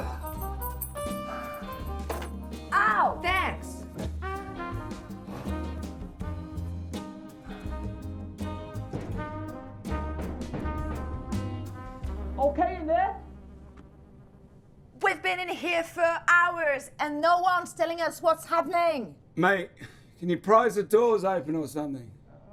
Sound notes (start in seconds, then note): 8.8 banging